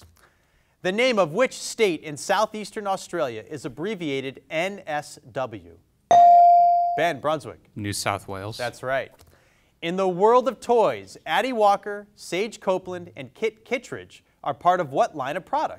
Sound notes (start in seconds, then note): 6.1 bell dings